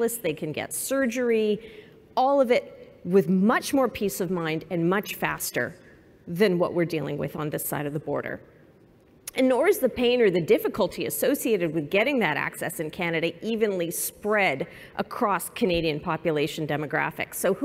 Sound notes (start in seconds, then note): none